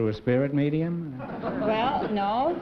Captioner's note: laughter